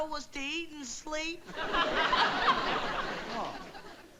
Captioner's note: audience laughing